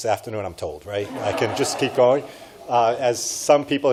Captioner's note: audience laughs